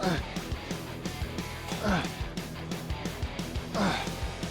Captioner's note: Sheamus grunting; upbeat rock music continues